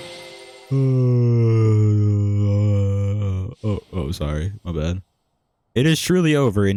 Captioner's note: yawn